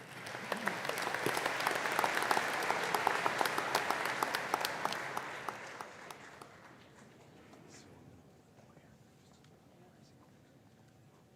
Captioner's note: applause